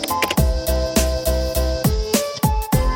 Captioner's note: keyboard clicking; upbeat music